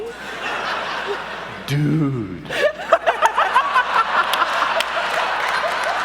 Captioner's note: in languid character voice